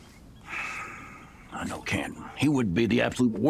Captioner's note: sighs